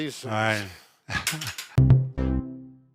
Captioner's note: clanking sound; perky music